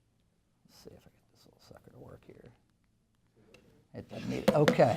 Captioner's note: mumbles to himself